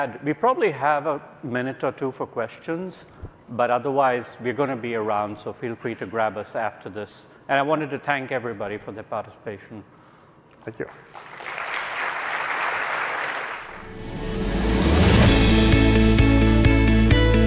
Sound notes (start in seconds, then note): 10.9 audience applauding; 13.7 upbeat music